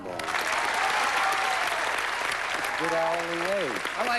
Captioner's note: applause